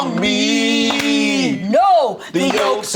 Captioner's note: all clap